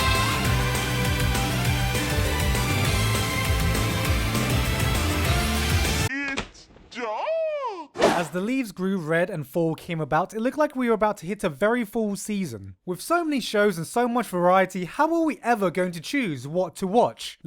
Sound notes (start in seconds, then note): 6.0 deep Voice